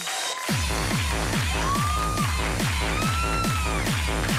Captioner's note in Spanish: Gritos y exclamaciones; Palmadas al compás